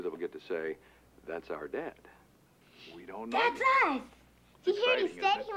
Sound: chatter

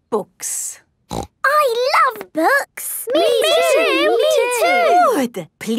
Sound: snorting

